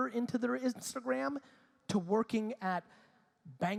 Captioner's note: none